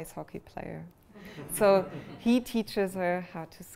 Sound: laughter

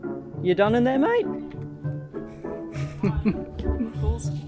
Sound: laughs

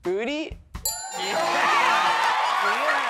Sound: ding!

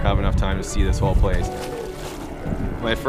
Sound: water splashes

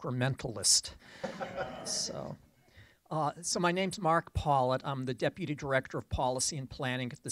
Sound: laughter

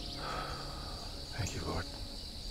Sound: sighs

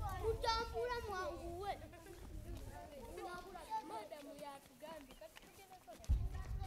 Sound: kids talking

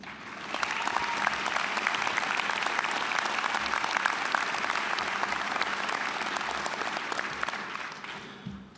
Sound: applause

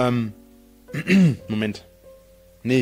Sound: clears his throat

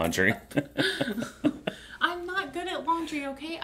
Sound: laughing

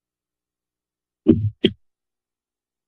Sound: mic Thuds

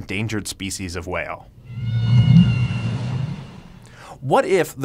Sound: whale call

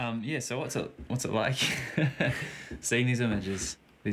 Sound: laughs

